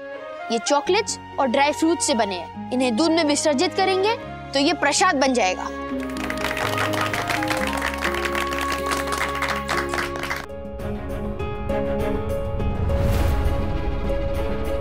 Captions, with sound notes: It's made of chocolates and dry fruits. If we dissolve it in milk, it will become an offering. [applauding] [dramatic music playing]